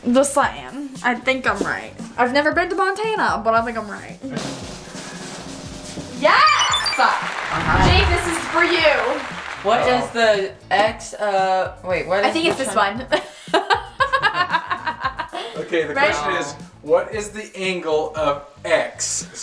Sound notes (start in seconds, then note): 4.8 drum roll; 6.3 high-pitched beeps; 13.2 laughing